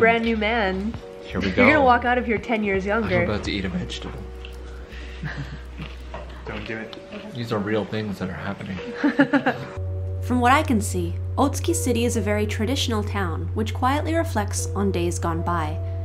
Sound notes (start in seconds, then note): 5.0 group chuckles; 8.9 laughs